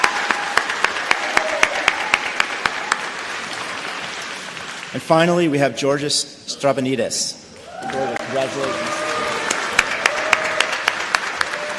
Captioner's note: applause